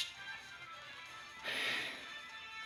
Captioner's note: sigh